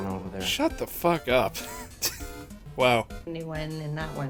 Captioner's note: laughter